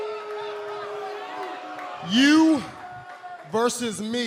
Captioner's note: crowd cheering